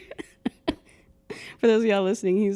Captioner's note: laughing